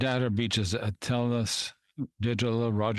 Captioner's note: speaking French